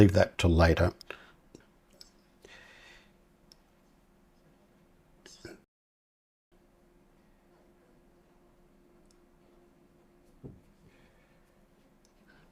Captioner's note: silence